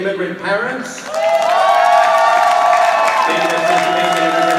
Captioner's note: audience applauding